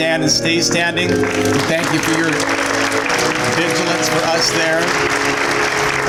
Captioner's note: applause